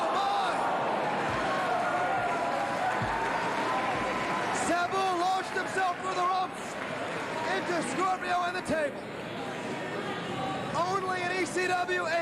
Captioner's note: cheers and applause